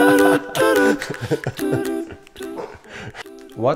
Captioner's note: laughing